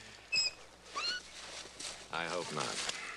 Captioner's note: metal squeaks